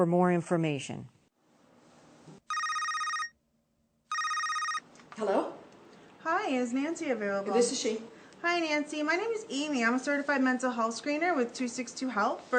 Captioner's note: phone ringing